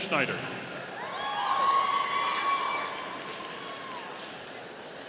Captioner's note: audience cheering